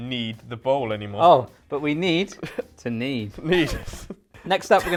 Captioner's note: laughs